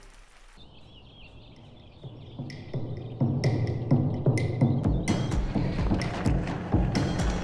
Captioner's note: birds chirping; tense music